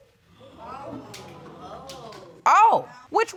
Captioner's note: audience gasps